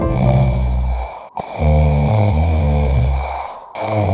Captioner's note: snoring sound effect